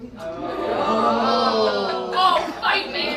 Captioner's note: groaning